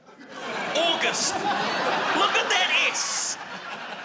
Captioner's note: laughter